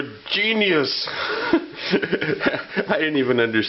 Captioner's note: laugh